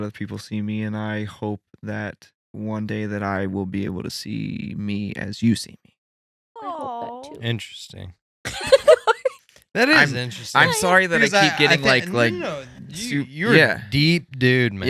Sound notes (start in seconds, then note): 8.5 laughing